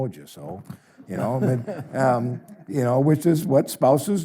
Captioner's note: audience chuckles